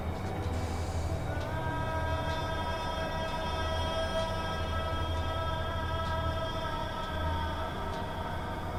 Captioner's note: sounds of desert winds and ambience of emptiness